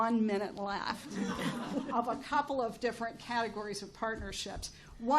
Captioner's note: chuckles